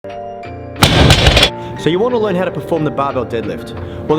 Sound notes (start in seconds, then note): 0.8 crash; 1.3 bright music